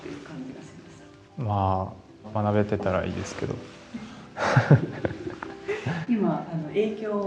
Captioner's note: laughs